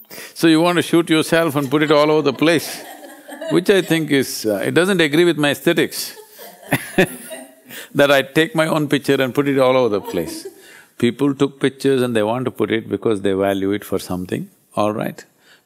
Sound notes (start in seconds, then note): 6.0 laughs